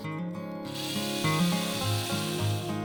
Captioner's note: whirring of drill